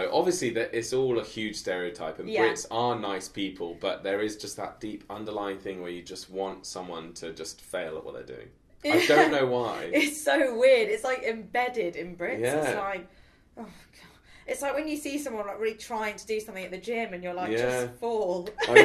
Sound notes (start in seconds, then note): 8.9 chuckling; 13.9 sighs